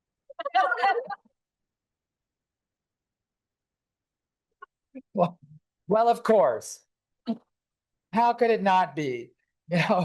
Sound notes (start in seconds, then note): 0.4 laughter